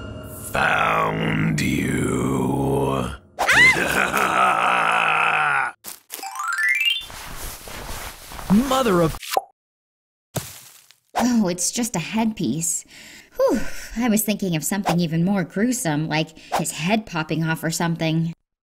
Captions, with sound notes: Found you! [screams] [maniacal laughter] Mother of- Oh... It’s just a headpiece... [sigh of relief] I was thinking of something even more gruesome. Like his head popping off or something.